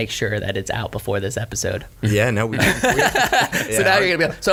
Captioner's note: laughs